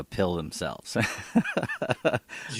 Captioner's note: laughs